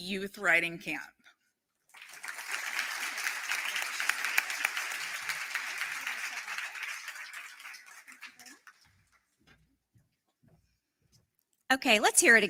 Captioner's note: applause